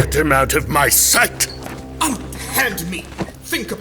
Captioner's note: door opens, mechanical sounds, struggling